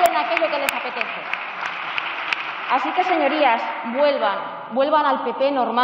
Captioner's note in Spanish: Protestas.-Aplausos